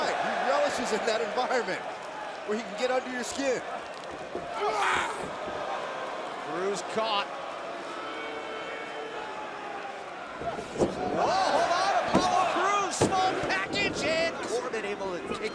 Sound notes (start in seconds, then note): 10.6 crowd cheering